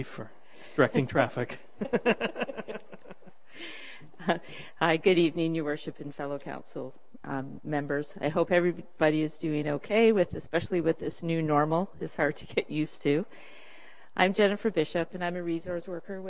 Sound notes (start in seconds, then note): 1.8 laughing